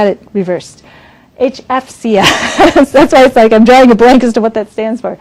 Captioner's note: laughs